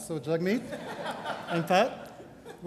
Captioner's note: crowd laughs